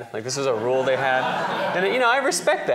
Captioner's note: laughter